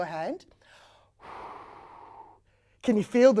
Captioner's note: air blowing sounds can be heard